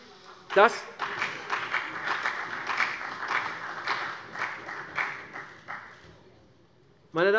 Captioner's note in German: Beifall CDU